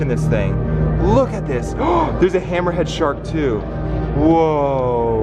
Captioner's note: gasping